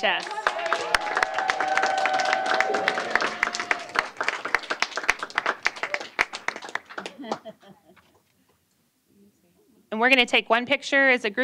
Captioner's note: applause